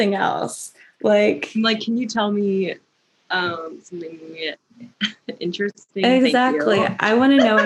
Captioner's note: laughter